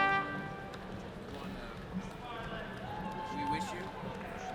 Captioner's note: people chattering